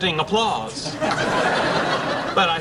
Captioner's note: laughing